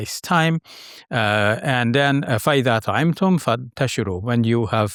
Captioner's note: speaking Arabic